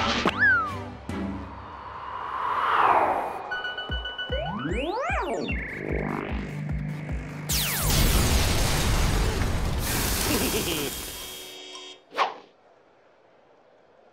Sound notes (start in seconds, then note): 10.2 chuckles